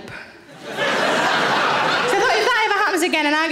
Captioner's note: audience laughing